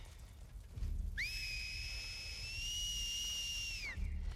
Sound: whistle

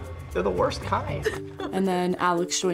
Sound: laughing

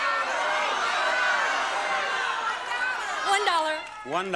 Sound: crowd shouting

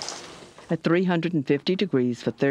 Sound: voiceover

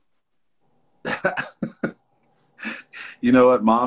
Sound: laughs

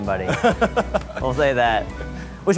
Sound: laughing

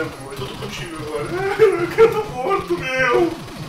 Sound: cries

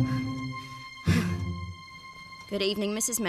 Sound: huffing & Puffing

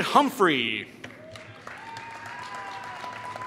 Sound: applause

